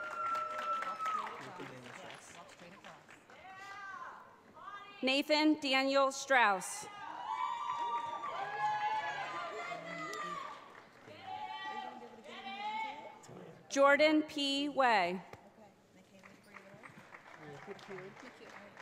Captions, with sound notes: Nathan Daniel Strouse. (audience cheers) Jordan P. Way.